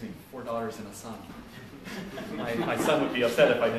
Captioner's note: laughter